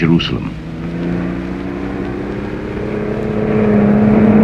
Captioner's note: engine revving